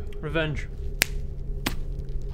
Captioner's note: smug click